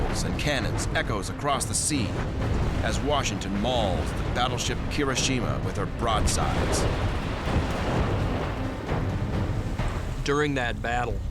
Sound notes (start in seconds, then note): 6.9 explosions